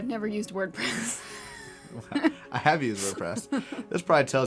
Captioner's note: laugh